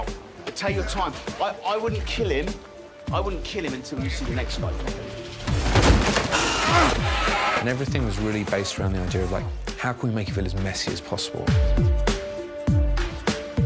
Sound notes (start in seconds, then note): 6.3 grunting